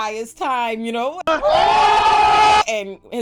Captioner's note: screaming